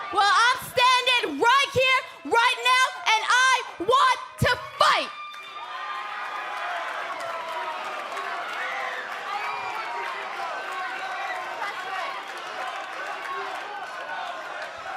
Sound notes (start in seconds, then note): 4.5 cheers and applause